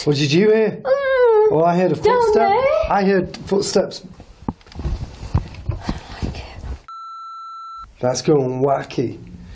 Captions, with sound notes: - What did you hear? (moans) Well, I heard a footstep. - Down there? - I heard footsteps. - I don't like it. (metre beeps) - That's going wacky.